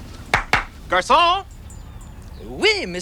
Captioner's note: hands clapping